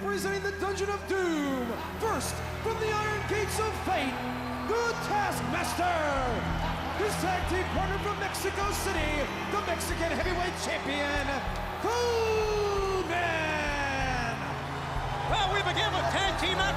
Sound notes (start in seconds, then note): 13.2 crowd cheering